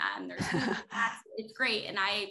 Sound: laughter

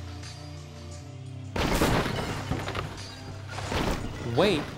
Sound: cars crashing

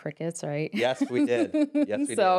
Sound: laughs

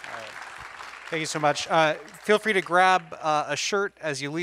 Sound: applause

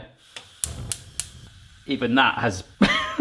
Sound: ignition clicking; chuckles

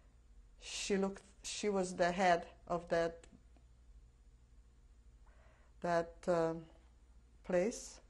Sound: pauses for 3 seconds

